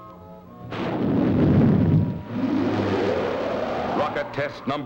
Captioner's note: rocket rumbling